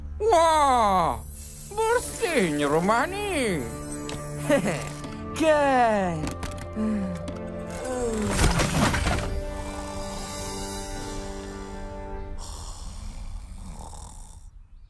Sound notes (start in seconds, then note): 4.4 chuckles; 6.7 exhausted sigh; 9.5 snoring